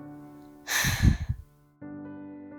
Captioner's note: annoyed snort